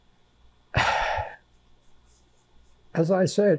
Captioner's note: sighing